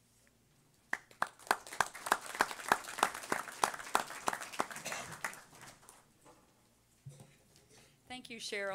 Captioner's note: audience applause